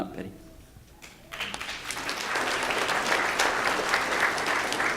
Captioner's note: audience applause